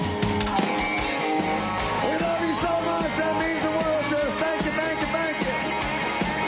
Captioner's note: cheers and applause